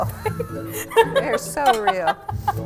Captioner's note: laughing